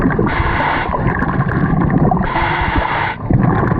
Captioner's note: loud breathing